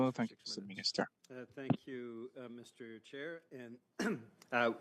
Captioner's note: speaking French